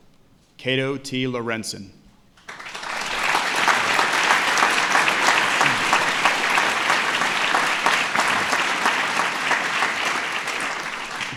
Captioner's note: applause